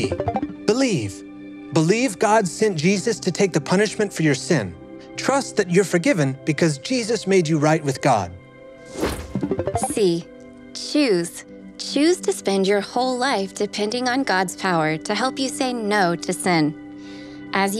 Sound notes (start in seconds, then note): 0.0 letter beeps; 8.8 letter whooshes; 9.4 letters beeps